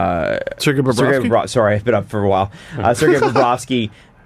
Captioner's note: stuttering